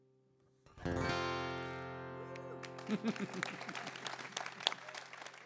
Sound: applause

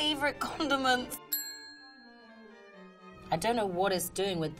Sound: bell chiming

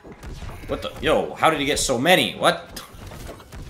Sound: basketballs

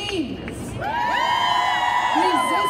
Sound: audience cheering

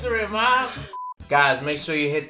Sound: electronic beep

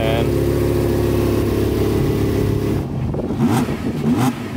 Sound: car engine revs

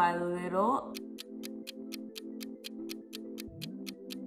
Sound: clock ticking

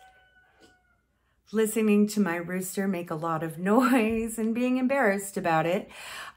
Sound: listening to my rooster make a lot of noise and being embarrassed about it

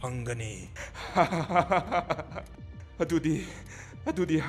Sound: laughing

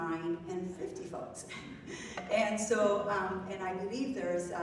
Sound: laughs

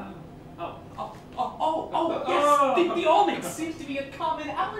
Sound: stammering

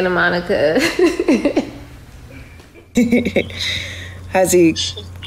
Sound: Ja'Nelle giggles

